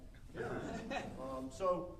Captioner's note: audience chuckling